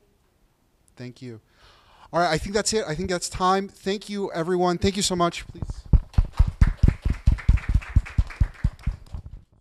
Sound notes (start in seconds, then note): 6.0 group applauding